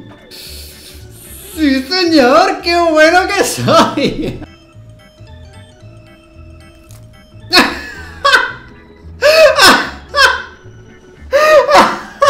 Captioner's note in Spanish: Risas